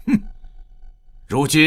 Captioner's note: scoffs